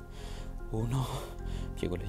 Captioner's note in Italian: con affanno